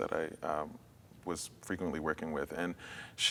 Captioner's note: none